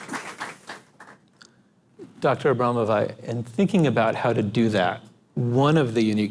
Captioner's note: applause